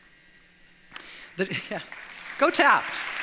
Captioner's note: applause